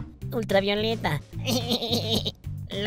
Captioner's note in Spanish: ríe